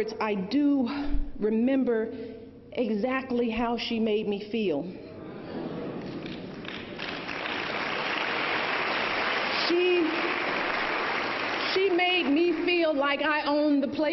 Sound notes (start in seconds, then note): 8.7 applause